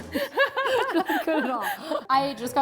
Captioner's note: both laugh